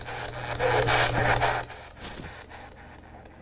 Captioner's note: spirit box voice